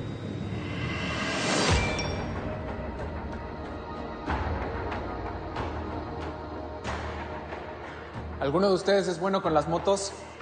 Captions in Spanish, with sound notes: [Suena el celular] - ¿Alguno de ustedes es bueno con las motos?